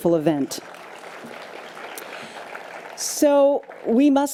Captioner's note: audience applause